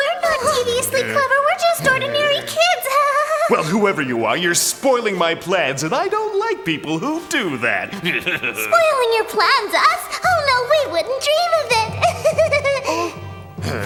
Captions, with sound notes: - No, we're not deviously clever. We're just ordinary kids (laughs nervously). - Well, whoever you are, you're spoiling my plans and I don't like people who do that. - Spoiling your plans, us? Oh no, we wouldn't dream of it (chuckles nervously).